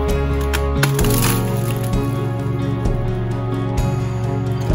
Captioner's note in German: Geräusch, wenn der Baum bricht